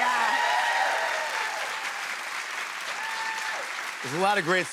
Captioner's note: cheers and applause